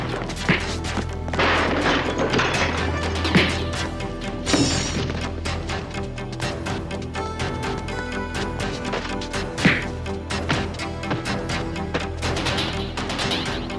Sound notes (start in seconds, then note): 0.2 kick thuds; 1.2 table clatters; 3.2 kick thuds; 4.8 dramatic music; 8.4 punches land